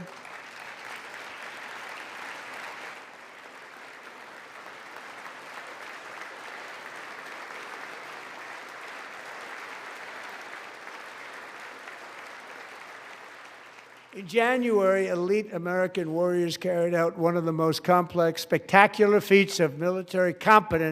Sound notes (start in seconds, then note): 5.1 applause